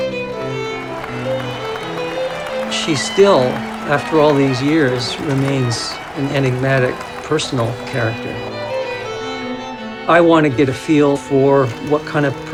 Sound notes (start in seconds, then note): 2.4 crowd cheers and applauds